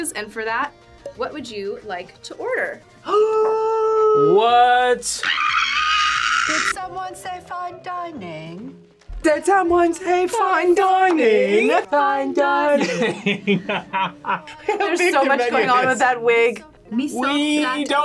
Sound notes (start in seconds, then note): 3.2 gasps; 5.1 screams; 12.7 laughs